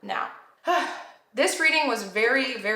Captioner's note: sighs